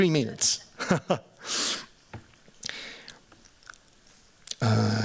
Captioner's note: chuckles